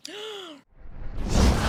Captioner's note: gasps